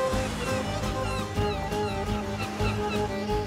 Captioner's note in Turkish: Martı sesleri